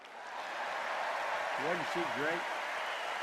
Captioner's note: cheers and applause